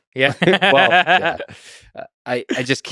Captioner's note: Saagar laughs